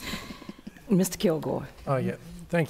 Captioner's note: laughter